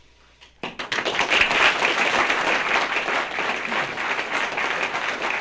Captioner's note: applause